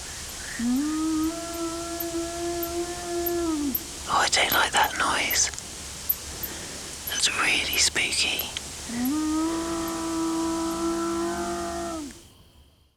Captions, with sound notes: (YOWLING CONTINUES) Oh, I don't like that noise. That's really spooky. (SUSTAINED YOWL)